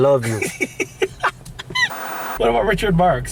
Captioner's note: laughing